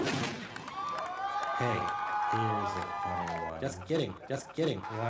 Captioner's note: gunshot firing; audience cheers